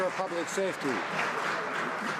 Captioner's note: some Applause